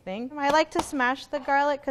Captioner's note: pounds repeatedly